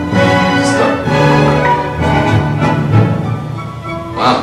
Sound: app chimes

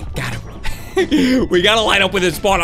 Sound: laughs

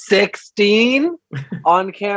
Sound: laughs

